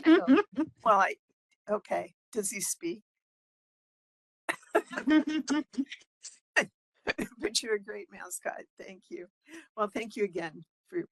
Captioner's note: laughing; laughing